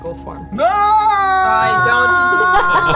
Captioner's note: screams as though falling